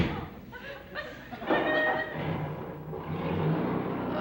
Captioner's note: door slams; engine starts